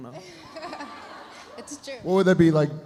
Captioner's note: laughs